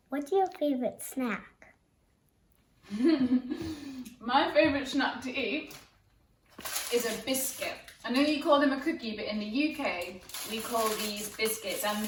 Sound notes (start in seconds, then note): 2.9 chuckles